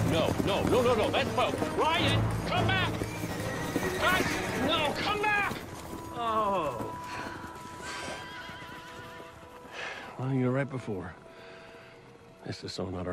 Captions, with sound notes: Espo, Ryan, come back! Guys! No, come back! Ohh. [Sighs] [Exhales sharply] [Sighs] Well, you were right before. This is so not our honeymoon.